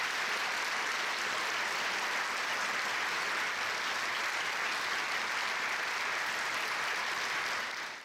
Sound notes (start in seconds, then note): 0.0 applause